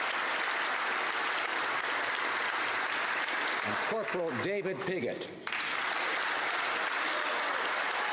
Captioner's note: applause